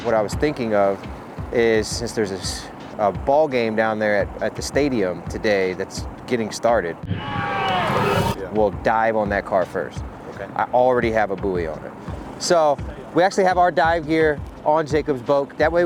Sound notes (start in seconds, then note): 7.1 crowd cheering